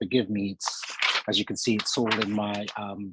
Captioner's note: papers rustling